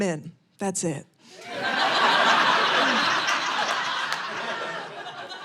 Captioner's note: audience laughing